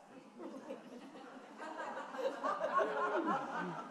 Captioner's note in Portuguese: risos da plateia